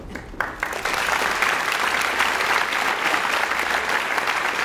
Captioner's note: audience applauds